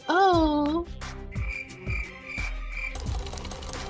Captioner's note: crickets